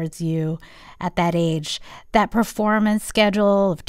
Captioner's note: none